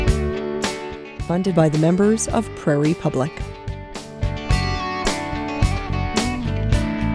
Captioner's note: voiceover